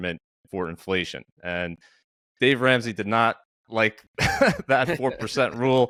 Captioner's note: laughs